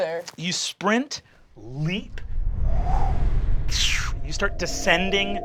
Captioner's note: whooshing